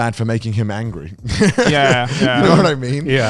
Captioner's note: laughs